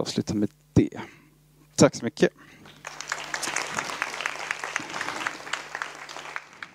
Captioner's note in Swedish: Applåder